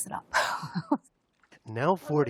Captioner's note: laughter